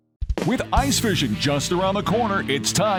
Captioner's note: voiceover